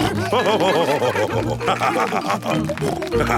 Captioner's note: all cheering; laughing; snorting